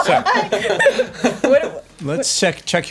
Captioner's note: laughter